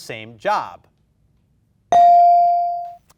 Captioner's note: bell dings